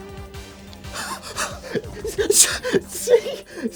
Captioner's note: gasps